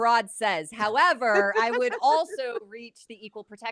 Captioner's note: laughing